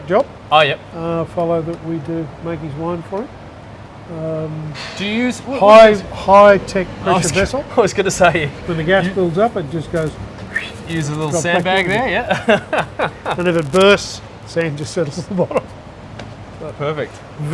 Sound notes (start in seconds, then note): 10.4 whistles; 12.9 laughs